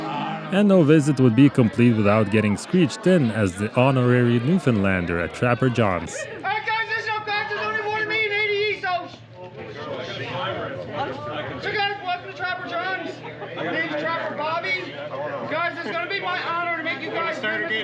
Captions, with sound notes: and no visit would be complete without getting screeched in as the honorary Newfoundlander at Trapper John's (Newfounldand dialect gibberish)